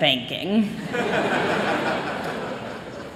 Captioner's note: laughter